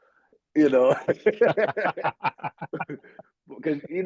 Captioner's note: laughing